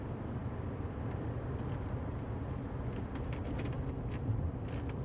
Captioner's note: the sound of a moving car